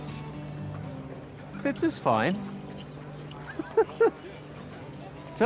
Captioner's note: laughs